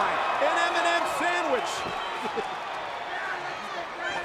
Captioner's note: chuckles